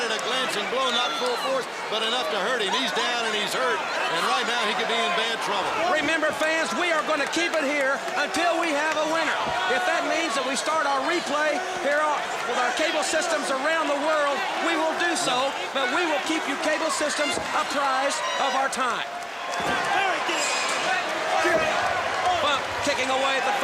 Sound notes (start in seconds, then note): 18.6 crowd chatter